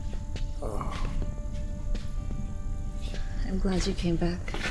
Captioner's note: Bolo groans